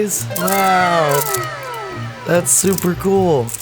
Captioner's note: in Unison, "Wow!"